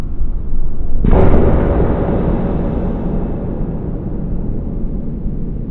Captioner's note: baseball exploding